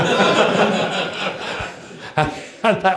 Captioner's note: laughter